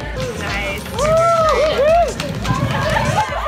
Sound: cheering

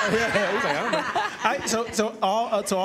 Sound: laughter

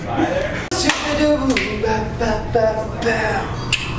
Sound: humming

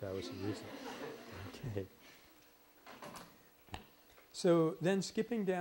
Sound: laughter

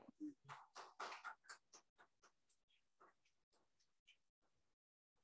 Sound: audience applauding

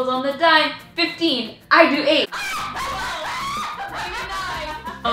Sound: laughs loudly

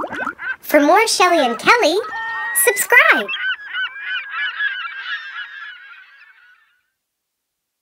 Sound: seagulls

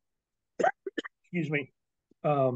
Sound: coughs

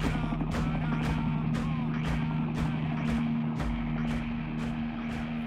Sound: chanting continues

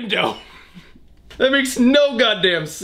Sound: laughs

